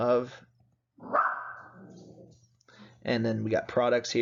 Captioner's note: dog barking